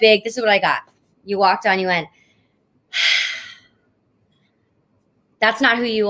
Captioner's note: taking deep breath